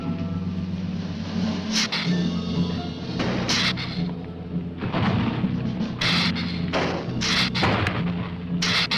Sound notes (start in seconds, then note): 1.9 lizard hissing; 4.5 ground rumbling